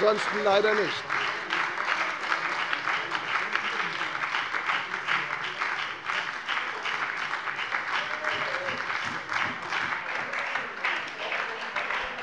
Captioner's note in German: Anhaltender lebhafter Beifall bei der FDP und der SPD